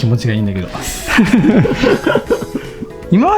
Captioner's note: laughter